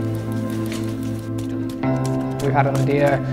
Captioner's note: bicycle swishing; runner's feet stomping the ground